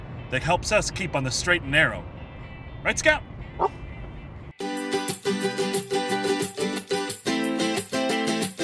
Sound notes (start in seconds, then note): 3.5 barks; 4.6 friendly music